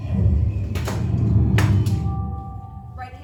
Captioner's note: whoosh